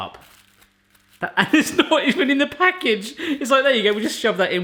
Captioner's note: laughs